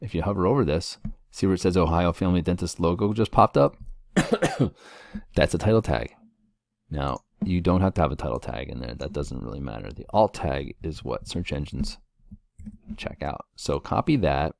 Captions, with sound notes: If you hover over this, see where it says Ohio Family Dentist logo just popped up? [COUGH] That's a title tag. Now, you don't have to have a title tag in there, that doesn't really matter. The alt tag is what search engines check out, so copy that.